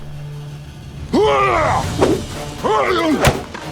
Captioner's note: yells